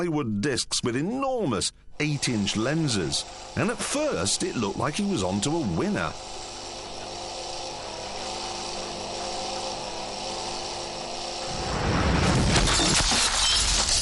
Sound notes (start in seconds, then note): 6.1 crashing